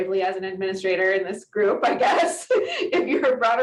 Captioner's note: giggles